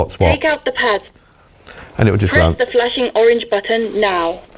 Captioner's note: automated voice